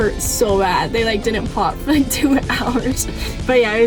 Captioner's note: laughing